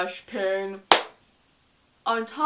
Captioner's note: hands clap